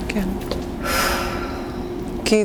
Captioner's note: sighing